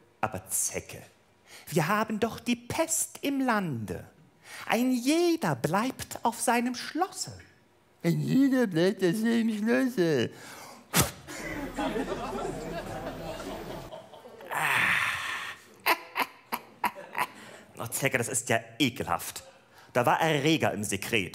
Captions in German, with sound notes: Aber Zecke, wir haben doch die Pest im Lande. Ein jeder bleibt auf seinem Schlosse. (nachäffend) Ein jeder bleibt auf seinem Schlosse ... * Die Zecke spuckt. * * Gelächter * Ah! * Die Zecke lacht hämisch. * Zecke, das ist ja ekelhaft. Da war Erreger im Sekret.